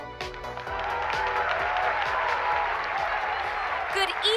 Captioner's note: audience applauding and cheering